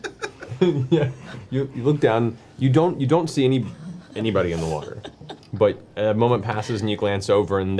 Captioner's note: laughs